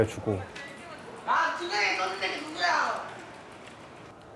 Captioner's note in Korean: 흥분한 학생들의 대화 소리